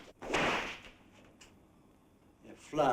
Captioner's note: whip cracks